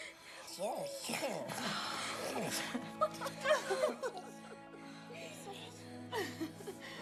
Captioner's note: laughter